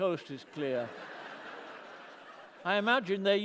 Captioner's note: laughter